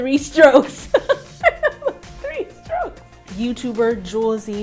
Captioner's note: laughs